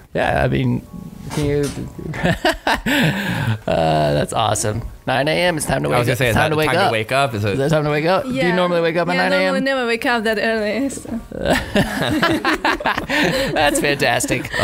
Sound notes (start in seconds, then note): 2.1 laughing; 11.3 laughing